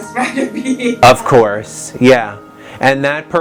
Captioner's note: laughter